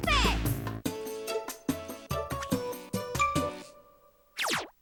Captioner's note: none